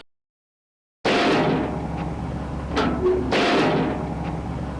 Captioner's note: dumbwaiter clanking